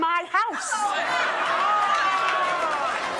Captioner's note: applause